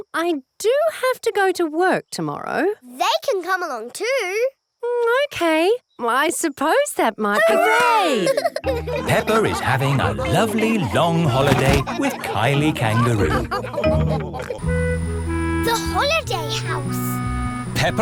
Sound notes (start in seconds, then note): 8.0 all laughing